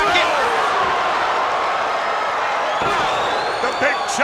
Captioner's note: blows thudding